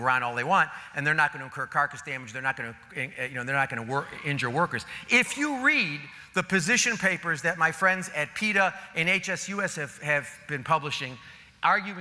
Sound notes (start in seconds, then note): none